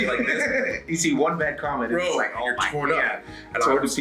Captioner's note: laugh